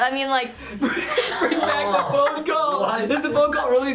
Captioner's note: cracks up